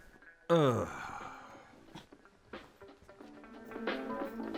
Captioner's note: Butch groans; funky music